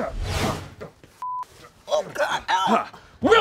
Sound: beep

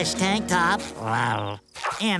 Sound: purring

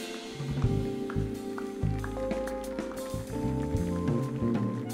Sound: audience applauding; mellow music

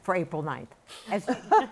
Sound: laughter

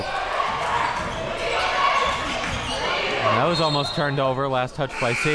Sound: crowd

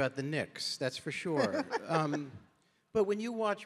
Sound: Rachel chuckling

